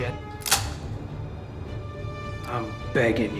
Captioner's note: gun loads